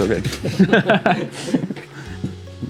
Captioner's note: laughs